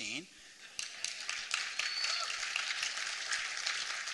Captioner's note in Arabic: تصفيق